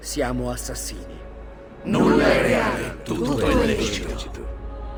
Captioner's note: chants at the same time